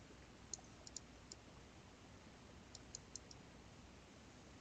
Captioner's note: mouse clicking